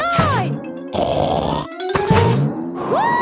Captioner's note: snorts